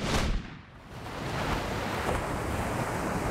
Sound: waves crashing

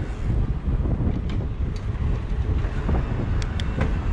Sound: rotor cranking; gears clicking

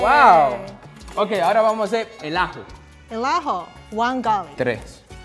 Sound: speaking in foreign language

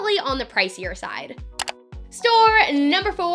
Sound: click

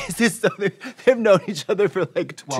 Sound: laughing

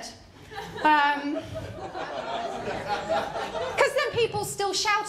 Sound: laughter

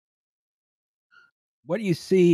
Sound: washing machine squeaks

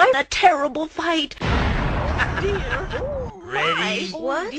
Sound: explosion, Hektan chuckles

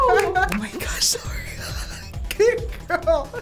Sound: laughing; wheezes

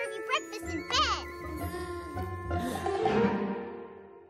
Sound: sighs

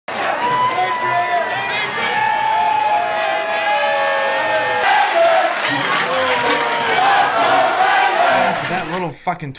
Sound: crowd cheering

